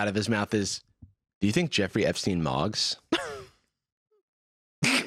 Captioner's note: laughs